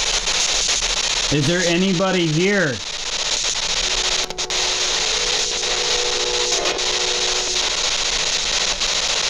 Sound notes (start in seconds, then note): 3.8 train horn